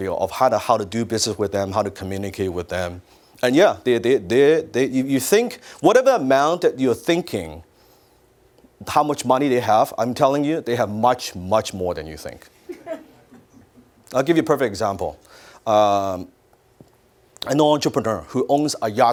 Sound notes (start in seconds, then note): 12.7 audience laughs